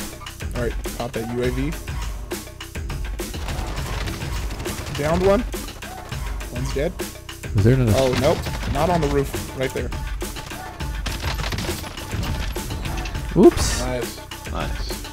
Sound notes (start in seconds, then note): 3.2 gunshots